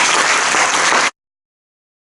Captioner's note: applause